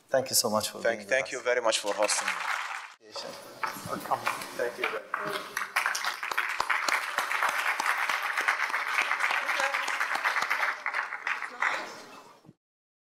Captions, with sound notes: Thank you so much for being with us. - Thank you very much for hosting me. (audience clapping) - Welcome. - Thank you very much. (audience applauding)